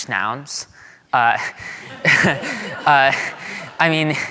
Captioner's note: audience laughing